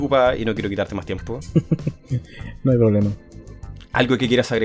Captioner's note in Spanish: risas